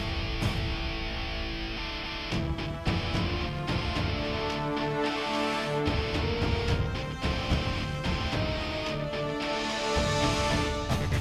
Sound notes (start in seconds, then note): none